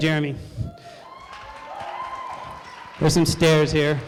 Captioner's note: applause